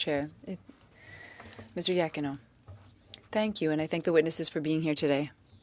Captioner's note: speaking French